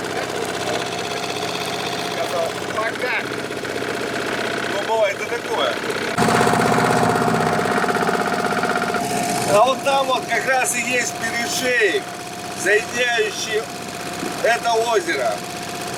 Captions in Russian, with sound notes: Сказал "пока!". (смеётся) Ну, бывает и такое. А вон там как раз и есть перешеек, соединяющий это озеро.